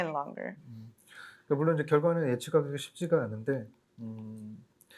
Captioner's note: speaking korean